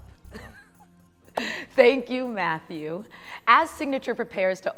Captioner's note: laughs